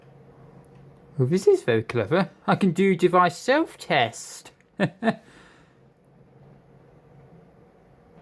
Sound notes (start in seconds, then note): 4.7 chuckles